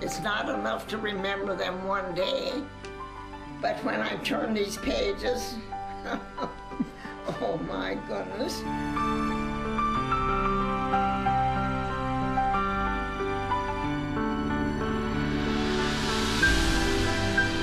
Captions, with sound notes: It's not enough to remember them one day, but when I turn these pages, (laughs) oh my goodness.